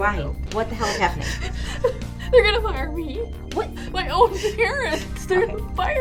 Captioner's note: sobs